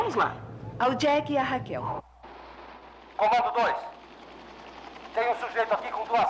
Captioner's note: soldier #1 On Radio; soldier #2 On Radio